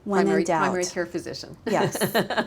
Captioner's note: laughs